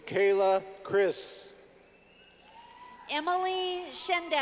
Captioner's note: clapping